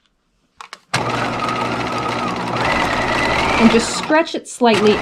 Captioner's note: sewing machine roaring